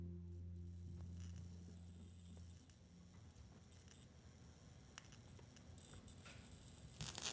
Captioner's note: electrical Buzzing